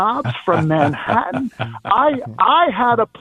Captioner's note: laughter